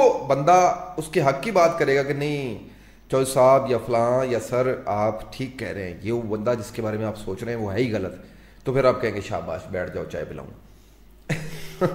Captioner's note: laughter